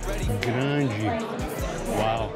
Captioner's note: in Portuguese